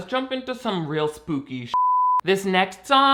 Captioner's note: beeping